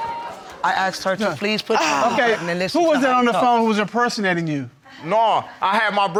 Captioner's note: sighs